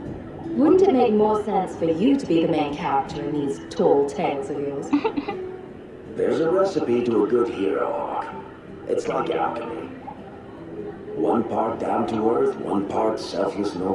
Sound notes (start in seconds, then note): 4.8 laughs